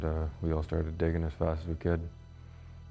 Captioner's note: voiceover